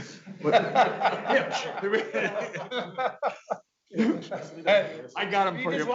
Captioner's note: audience laughing